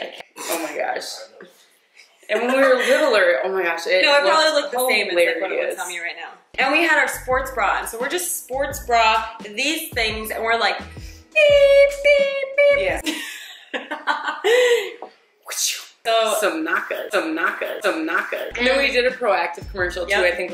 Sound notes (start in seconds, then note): 13.0 laughter; 15.7 whoosh sound